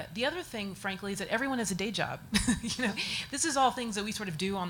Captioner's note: laughs